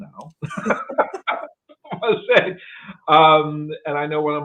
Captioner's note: both laugh